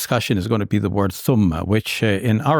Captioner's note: speaking in Arabic